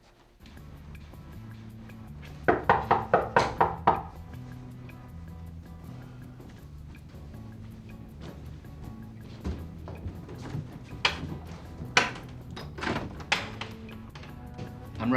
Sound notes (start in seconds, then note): 2.4 knocking on the door; 5.0 chill music